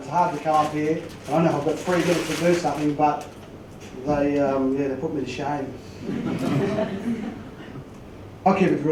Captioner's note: laugh